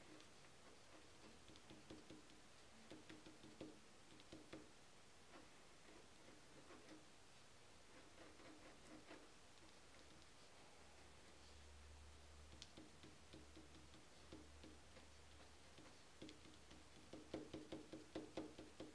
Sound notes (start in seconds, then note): 13.3 pen drawing